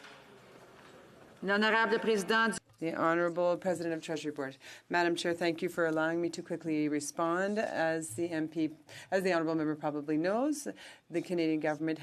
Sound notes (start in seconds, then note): 5.0 speaking French